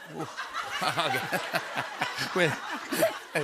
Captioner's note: laughter